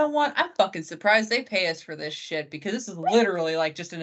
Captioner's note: laughing